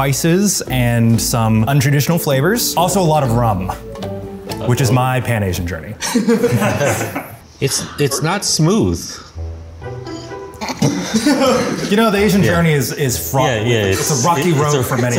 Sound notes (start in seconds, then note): 6.0 laughter; 13.9 laughs